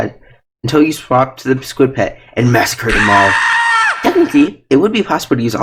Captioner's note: scream